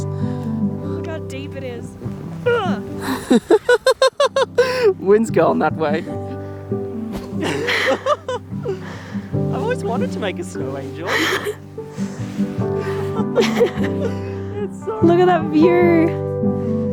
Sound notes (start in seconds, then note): 2.2 grunting; 3.0 laughing; 7.2 laughing; 12.8 laughing